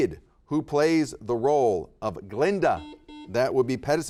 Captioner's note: buzzer beeps